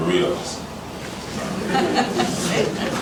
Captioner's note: laughter